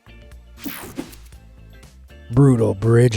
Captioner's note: screen whooshing